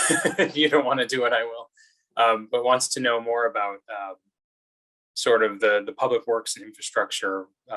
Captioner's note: laughs